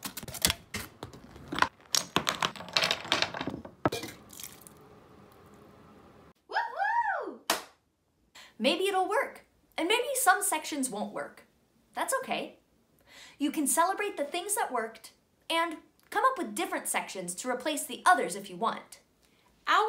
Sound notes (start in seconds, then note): 0.0 objects clattering; 4.5 water swooshes; 7.4 hands clap